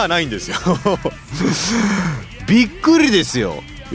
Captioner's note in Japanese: 笑い